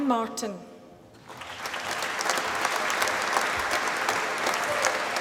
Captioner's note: applause